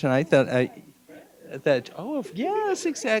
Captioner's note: gentle speaking